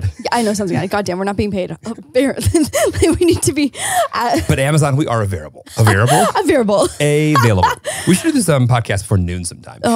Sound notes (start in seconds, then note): 0.0 chuckles; 2.4 both laughing; 5.8 laughing; 7.2 chuckles